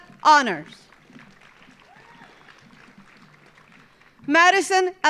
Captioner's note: audience applauding